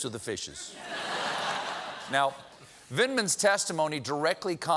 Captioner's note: laughter